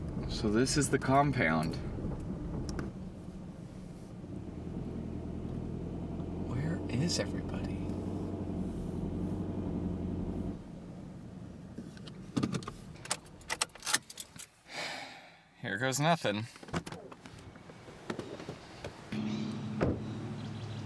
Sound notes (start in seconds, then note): 13.2 unplugging keys; 14.7 Keith sighing